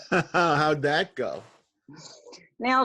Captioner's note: laughs